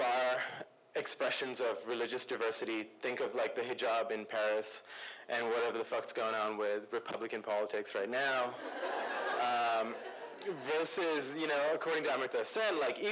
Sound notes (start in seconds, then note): 8.5 laughter